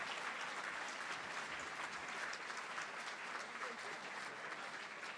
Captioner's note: applause